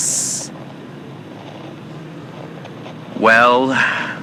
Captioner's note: distant moans of lost souls everywhere fx